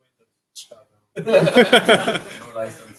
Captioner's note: laughter